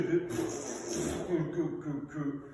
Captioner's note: brrhbrhrbhrbrhbr